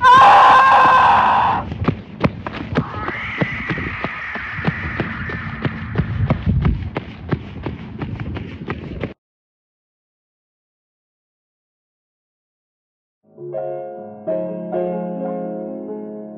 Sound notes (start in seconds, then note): 0.0 screaming; 2.6 footsteps running and unknown animal screeching in the distance